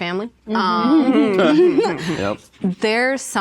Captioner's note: participants laugh